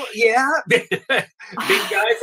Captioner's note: chuckles